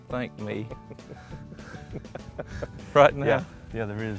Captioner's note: laughing